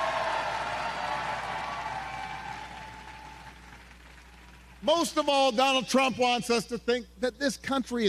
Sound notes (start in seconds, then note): 0.0 cheers and applause